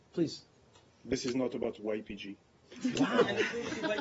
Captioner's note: laughter